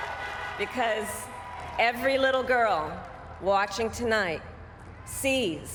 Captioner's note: applause